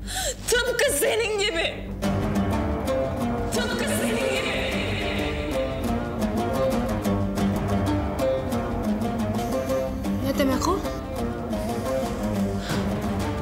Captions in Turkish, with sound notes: Tıpkı senin gibi! (sesi yankılanıyor) Ne demek o?